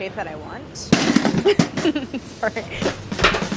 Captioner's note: laughs; jazzy music; box clatters